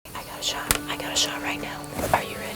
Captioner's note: whispering